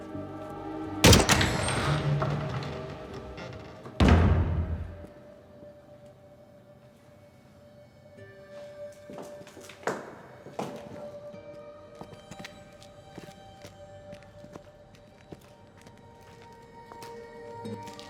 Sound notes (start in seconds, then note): 1.0 door squeaks; 5.6 eerie music; 14.5 eerie music continues